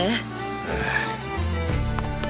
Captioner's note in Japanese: 旦那のため息